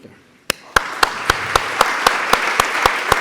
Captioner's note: applause